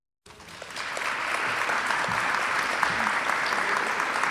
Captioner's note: audience clapping